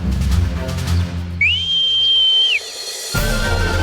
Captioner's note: whistling